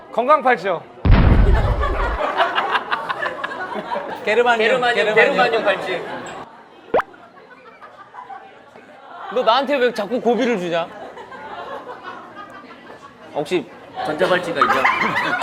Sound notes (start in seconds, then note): 2.3 laughing